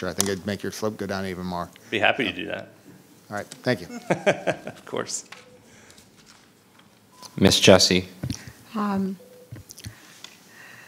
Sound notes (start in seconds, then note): 3.8 laughing